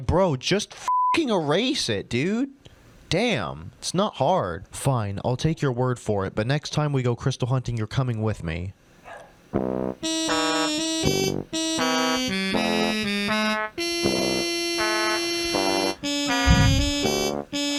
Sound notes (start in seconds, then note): 9.0 Cream barks